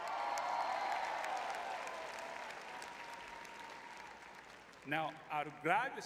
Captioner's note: crowd cheering